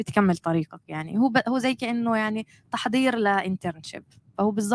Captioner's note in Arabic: لغة أجنبية